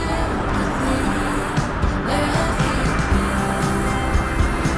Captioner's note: laughs